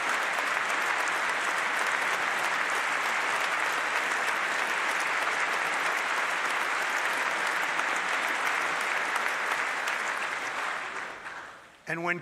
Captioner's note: applause